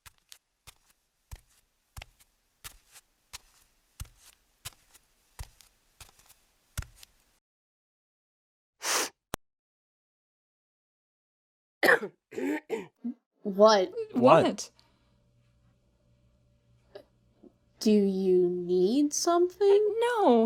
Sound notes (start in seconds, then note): 0.2 footsteps; 8.8 sniffle; 11.8 someone clearing their throat; 14.8 awkward silence